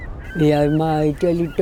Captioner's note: woman speaking a native language